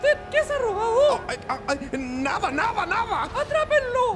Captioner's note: mumbles